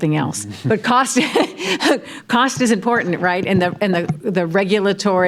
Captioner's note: laughs